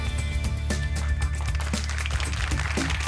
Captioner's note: applause